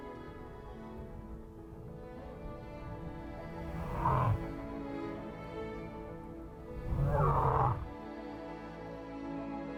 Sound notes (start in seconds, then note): 6.7 lion roars